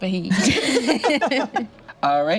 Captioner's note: group laughs